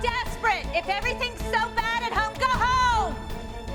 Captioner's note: yelling